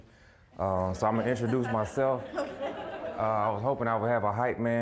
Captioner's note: audience laughing